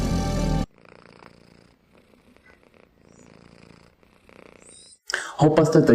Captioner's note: purrpurr